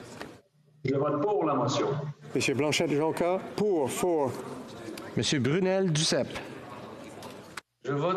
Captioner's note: speaking FRENCH